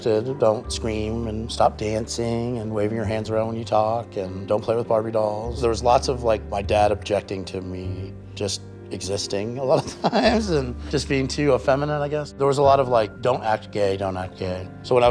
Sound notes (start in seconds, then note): 9.7 chuckles